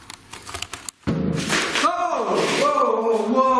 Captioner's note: banging